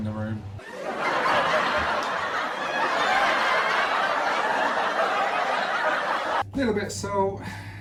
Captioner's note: audience laughing